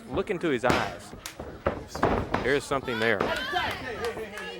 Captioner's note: crowd chatter